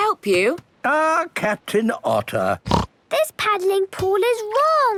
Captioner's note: snorts